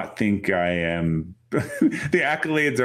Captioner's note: chuckles